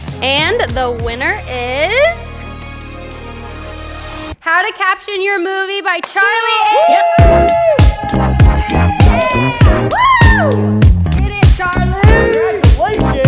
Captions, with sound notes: And the winner is. (inspirational music) "How to Caption Your Movie" by Charlie Ainsworth. (all cheering) (upbeat music) - Yeah, woo! Get it Charlie.